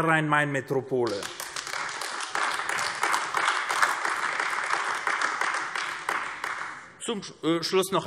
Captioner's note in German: Beifall AfD